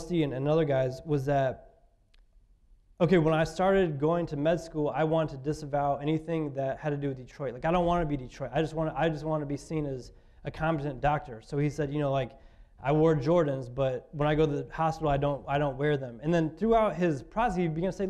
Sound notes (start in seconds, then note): none